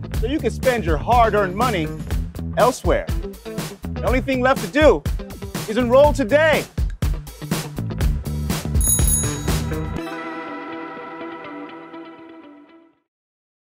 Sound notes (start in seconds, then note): 8.8 upbeat music; 8.8 bell chimes